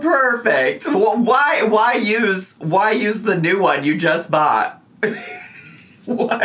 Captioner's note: laughing